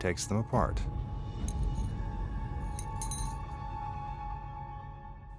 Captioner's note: rings clinking